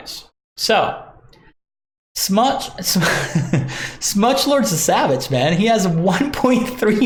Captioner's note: laughs